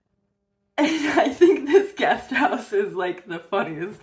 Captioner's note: laughing